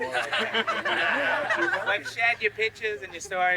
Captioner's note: crowd laughing